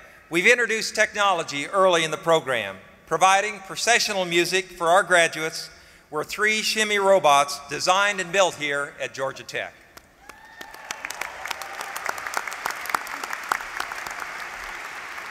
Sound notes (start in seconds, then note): 10.1 applause